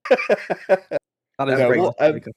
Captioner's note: laughter